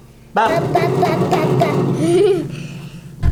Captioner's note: banging; laughing